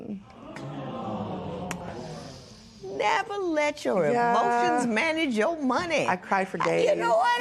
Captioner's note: spectators gasp, murmur